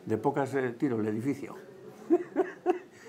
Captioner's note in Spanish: ríe